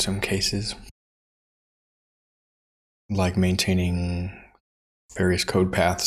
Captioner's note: silence